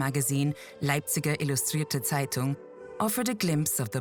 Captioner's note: narrator speaks in foreign language